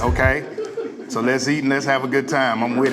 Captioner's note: laughs